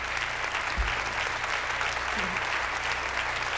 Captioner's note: applauding